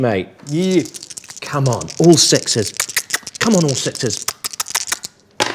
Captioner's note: kisses